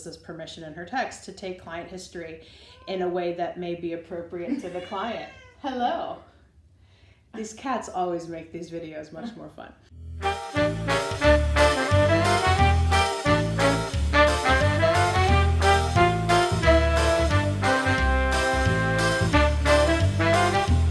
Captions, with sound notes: this permission in her text, to take client history in a way that may be appropriate to the client. (cat meows) Hello. These cats always make these videos much more fun. (upbeat music)